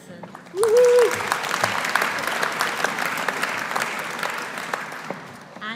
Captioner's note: audience applauding; audience cheering